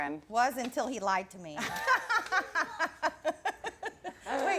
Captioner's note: laughs